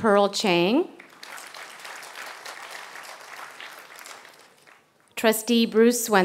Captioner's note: applause